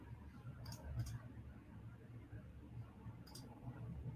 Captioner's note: mouse clicking